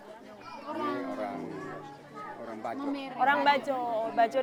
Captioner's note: men speaking Austronesian language